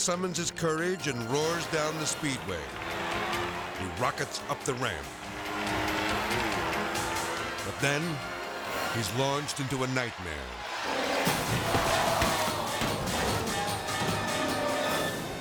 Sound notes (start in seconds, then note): 0.0 edgy dramatic music; 2.5 cycle revving; 5.0 cycle buzzing; 10.4 Rex splashing; 10.4 crowd exclaiming; 10.5 edgy dramatic music